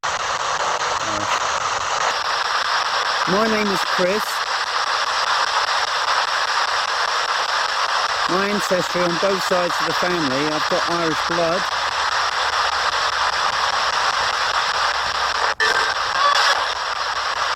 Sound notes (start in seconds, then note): 13.1 ghost box buzzing